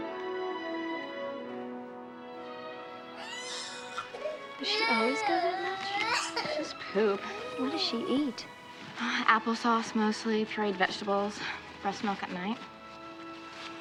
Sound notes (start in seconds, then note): 3.1 baby crying